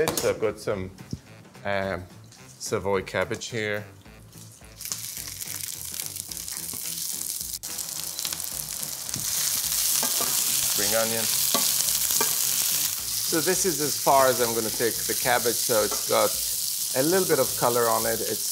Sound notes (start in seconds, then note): 4.9 cabbage sizzling